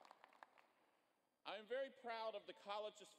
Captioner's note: applause